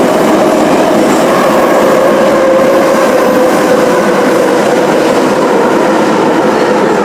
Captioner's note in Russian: торможение - прибытие на станцию